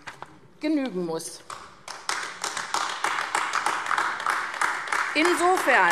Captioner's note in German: Beifall AfD